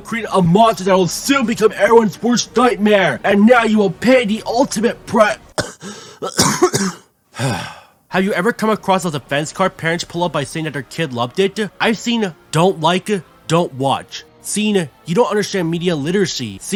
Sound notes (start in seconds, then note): 5.5 coughs; 7.3 sighs